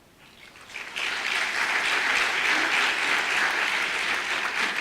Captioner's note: audience applause